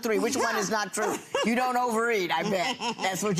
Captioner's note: laughing